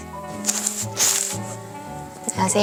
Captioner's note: scratching